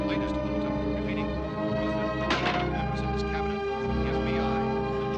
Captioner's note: radio becomes faint, continues